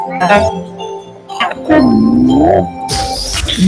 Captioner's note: beeping